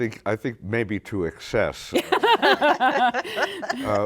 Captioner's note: laughter